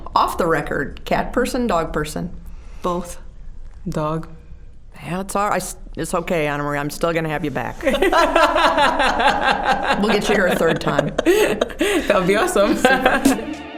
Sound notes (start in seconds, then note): 7.8 all laughing; 13.5 upbeat music